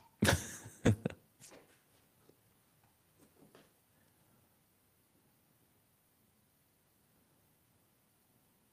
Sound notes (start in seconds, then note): 0.2 laughs